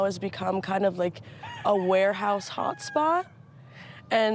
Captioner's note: rooster crowing